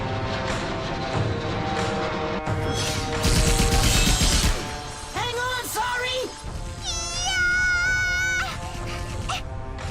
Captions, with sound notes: Hang on, Sari! (SCREAMING)